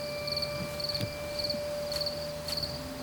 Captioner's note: insects chirping; door closes